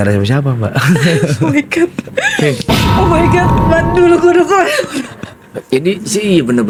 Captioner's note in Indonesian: tertawa